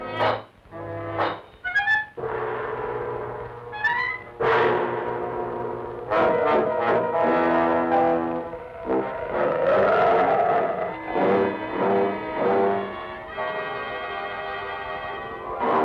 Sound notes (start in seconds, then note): 9.3 wolf growl